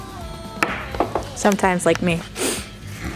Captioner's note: snif